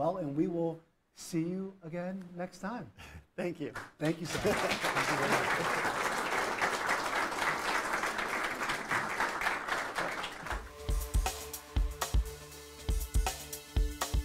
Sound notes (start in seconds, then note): 4.0 audience applauds; 10.6 upbeat techno music